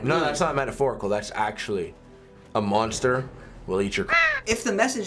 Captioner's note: caw!